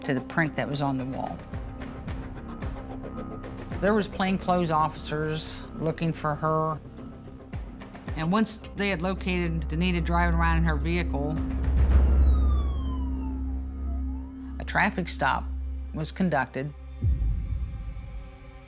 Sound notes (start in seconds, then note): 11.2 sirens